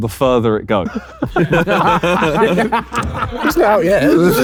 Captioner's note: group laughs